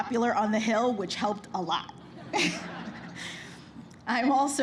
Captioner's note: laughter